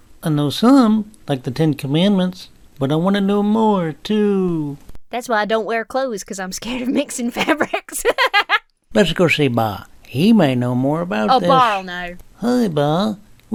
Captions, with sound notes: - I know some, like The Ten Commandments, but I wanna know more, too. - "That's why I don't wear clothes, "'cause I'm scared of mixing fabrics." (laughs) - Let's go see Baa. He may know more about this. - Oh, Baa'll know. - Hi, Baa. We—